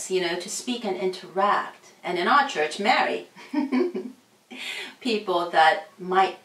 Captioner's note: laughs